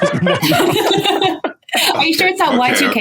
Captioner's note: group laughing